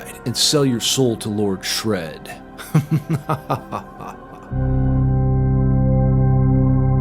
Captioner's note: evil laugh ringtone